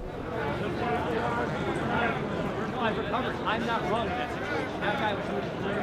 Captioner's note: crowd on street